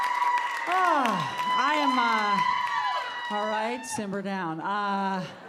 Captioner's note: audience cheering